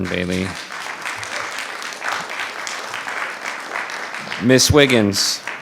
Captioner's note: audience applauding